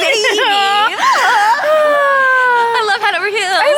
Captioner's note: both laughing